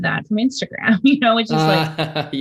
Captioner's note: Andrew laughs